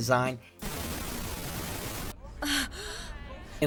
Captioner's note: static discharge; gasp